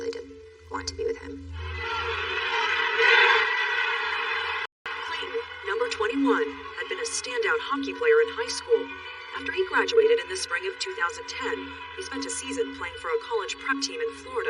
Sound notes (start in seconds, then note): 1.5 crowd cheering